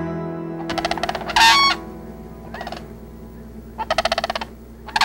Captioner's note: birds chattering